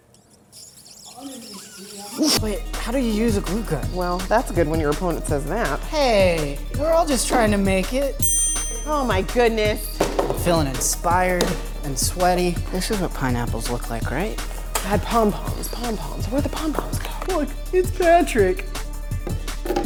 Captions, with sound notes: (lips screeching) - Wait, how do you use a glue gun? - Well, that's good when your opponent says that. - Hey, we're all just tryin' to make it. (counter dings) - Oh my goodness. - I'm feelin' inspired and sweaty. This is what pineapples look like, right? - I had pom-poms, pom-poms. Where'd the pom-poms go? - Look, it's Patrick.